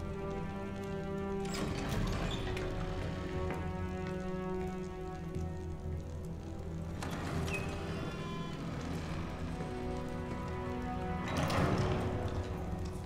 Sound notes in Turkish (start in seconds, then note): 1.4 Kapı açılma sesi; 7.0 Kapı kapanma sesi